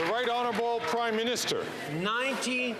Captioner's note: some Applause